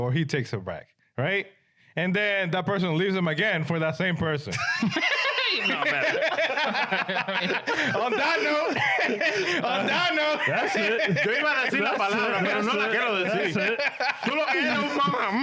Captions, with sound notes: he takes them back, right? And then that person leaves them again for that same person. (Laughing) (Speaking In Foreign Language)